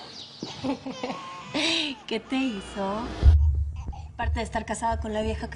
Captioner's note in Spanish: Riendo